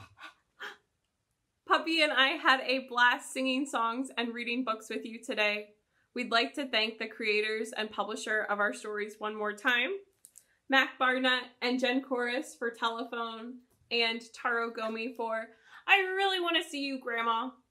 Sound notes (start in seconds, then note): none